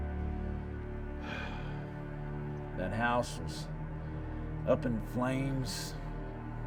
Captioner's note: sighs